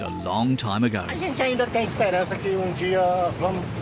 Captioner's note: Portuguese spoken audio